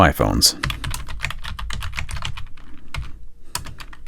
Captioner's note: typing